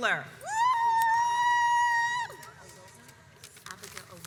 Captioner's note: cheers